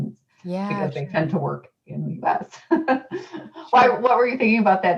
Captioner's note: laughs